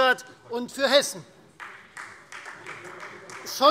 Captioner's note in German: Beifall Freie Demokraten